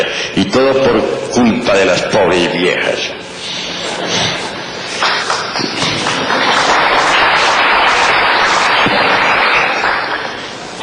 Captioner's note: audible laughter and applause